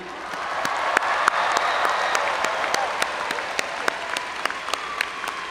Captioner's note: audience cheering and applauding